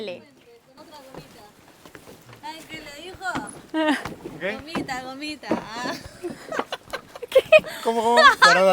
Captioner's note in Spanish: Risas